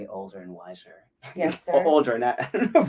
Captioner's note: laughs